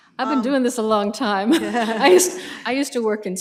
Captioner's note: laughter